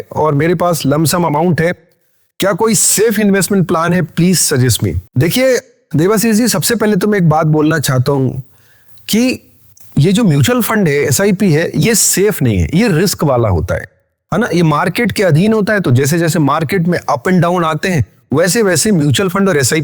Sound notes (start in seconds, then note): 12.4 SIPs